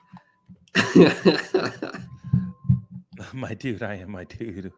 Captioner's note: laughs